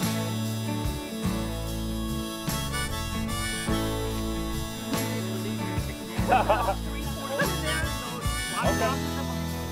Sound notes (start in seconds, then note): 6.2 laughs